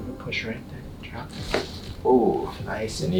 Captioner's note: body cracking